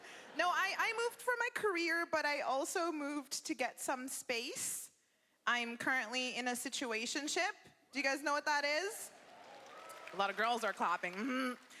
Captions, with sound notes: No, I moved for my career, but I also moved to get some space. I'm currently in a "situationship". Do you guys know what that is? (cheering) A lot of girls are clapping, mm-hmm.